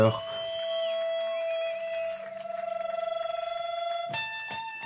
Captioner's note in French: larsen de guitare